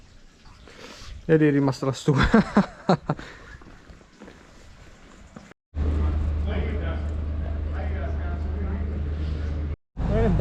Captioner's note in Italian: risate